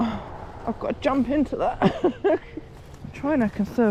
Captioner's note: laughs